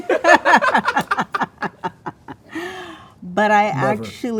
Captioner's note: all laughing